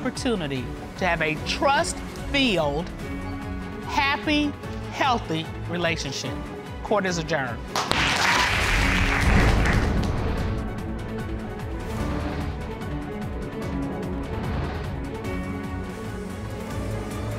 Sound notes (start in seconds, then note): 7.7 audience applauding